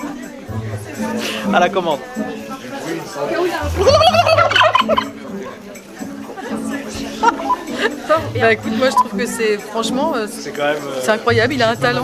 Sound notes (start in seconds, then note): 3.6 imitation turkey cry; 3.6 turkey cry; 6.8 laugh